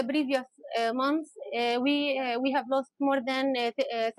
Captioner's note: speaking Alternate Language